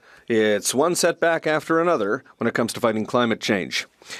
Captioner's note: speaking French